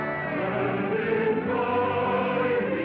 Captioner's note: none